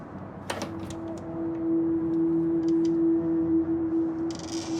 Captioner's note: door creaks